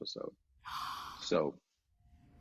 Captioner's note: gasps